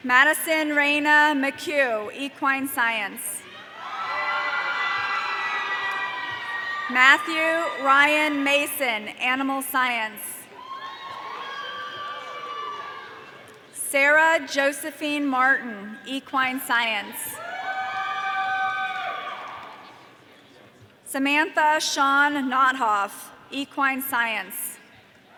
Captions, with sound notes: Madison Reina McCue, equine science. (audience cheering) Matthew Ryan Mason, animal science. (audience cheering) Sarah Josephine Martin, equine science. (audience cheering) Samantha Shawn Notthoff, equine science.